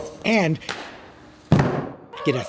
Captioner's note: body hitting mat